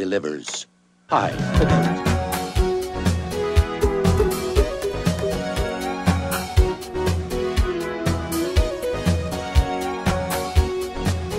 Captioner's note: he clears his throat